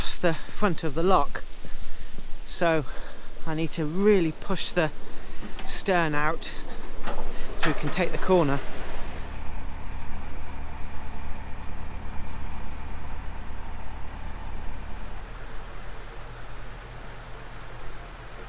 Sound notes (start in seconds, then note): 13.0 engine sounds